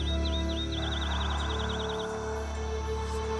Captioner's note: whispering